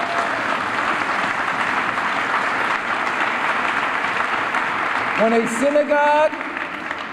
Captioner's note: applause